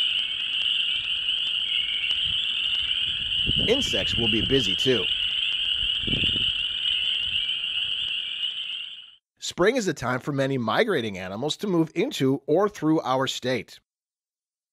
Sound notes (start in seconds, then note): 0.3 frog and toad sounds; 5.5 nature sounds